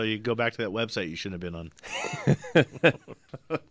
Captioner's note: both laugh; laughs